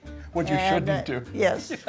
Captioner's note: laughing